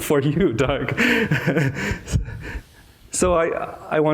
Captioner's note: laughs